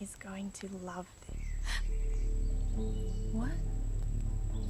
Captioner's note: foreboding music; Eddy gasping